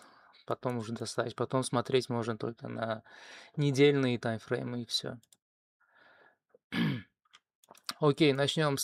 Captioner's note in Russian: откашливается